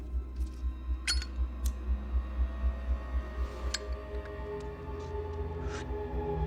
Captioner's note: Zippo clinks; clicks